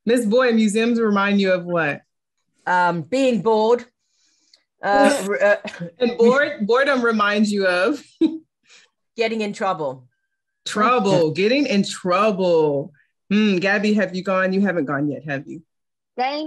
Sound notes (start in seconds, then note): 8.5 laughs